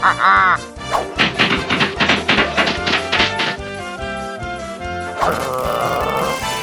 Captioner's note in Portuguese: Sons de pancadaria cartunesca